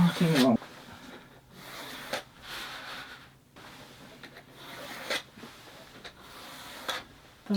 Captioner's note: sound of pencil